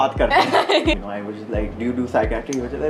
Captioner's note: laughing